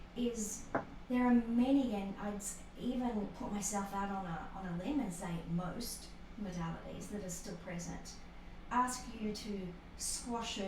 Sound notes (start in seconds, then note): none